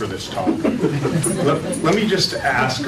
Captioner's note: laughter